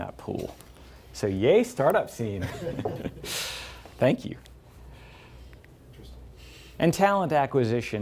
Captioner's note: laughs